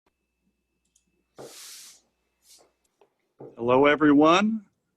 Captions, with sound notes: (mouse clicks) - Hello, everyone.